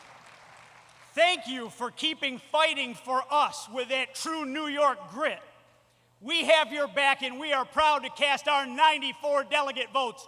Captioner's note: applause